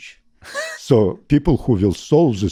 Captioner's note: laughs